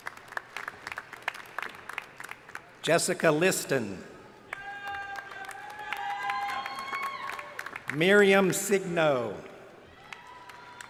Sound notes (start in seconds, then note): 4.5 crowd cheering